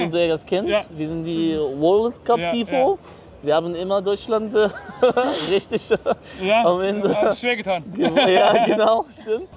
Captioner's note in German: gelächter